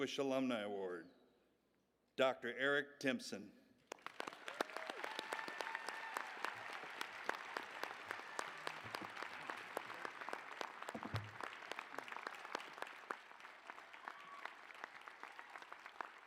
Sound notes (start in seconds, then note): 3.8 applause